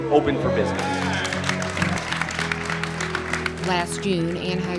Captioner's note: crowd applauds